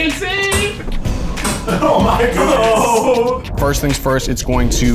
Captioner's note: blows